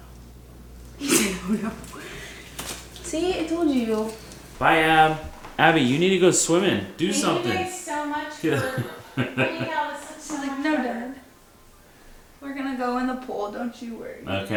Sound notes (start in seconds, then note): 1.0 laughter